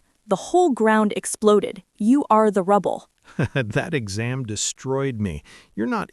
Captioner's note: laughs